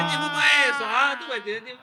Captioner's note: yelling